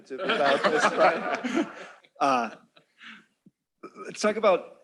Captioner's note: laughter